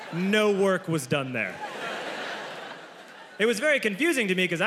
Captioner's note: audience laughs